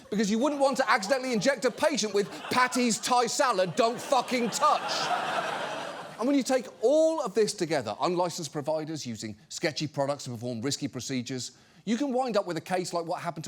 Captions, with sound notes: because you wouldn't want to accidentally inject a patient with “Patty's Thai Salad, Don't Fucking Touch!” (AUDIENCE LAUGHS) And when you take all of this together, unlicensed providers using sketchy products to perform risky procedures, you can wind up with a case like what happened